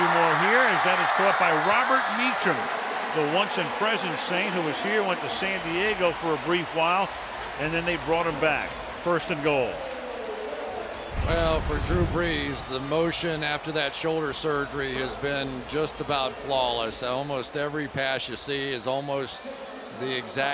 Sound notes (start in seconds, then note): 10.3 pa announcement